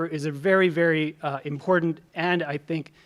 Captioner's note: none